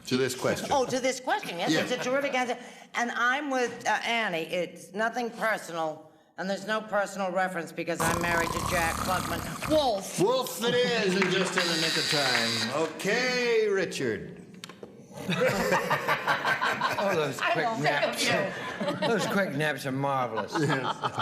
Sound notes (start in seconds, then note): 8.0 imitates snoring; 11.5 buzzer sounds; 15.2 laughter